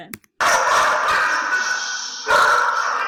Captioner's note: dog barks